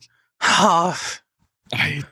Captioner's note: sigh